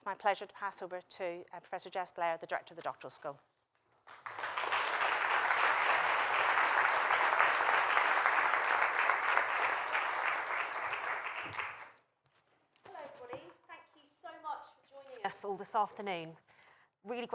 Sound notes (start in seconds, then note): 8.1 applause